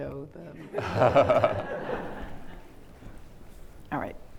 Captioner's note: everyone laughs